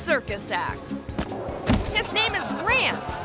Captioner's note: thuds